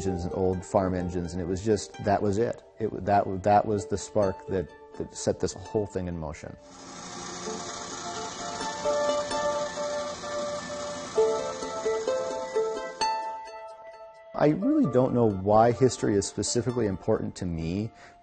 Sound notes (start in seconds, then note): 9.3 gears grind; 11.9 harp music